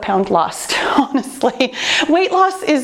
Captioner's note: chuckles